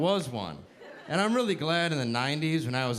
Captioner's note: audience laughing